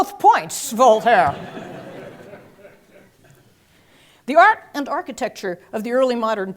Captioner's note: laugh